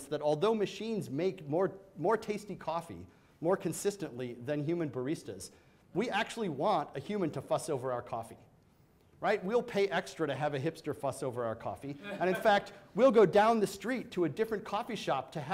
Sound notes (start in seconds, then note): 12.0 man laughs